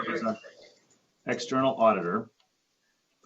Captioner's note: distorted sound